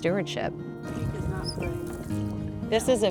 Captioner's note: chatter